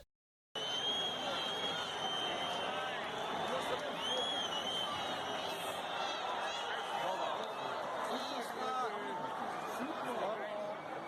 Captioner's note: crowd Cheering